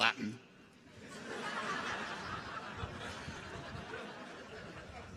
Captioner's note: audience laughs